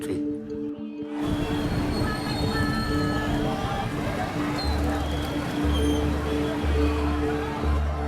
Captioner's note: traffic noise and people talking in the background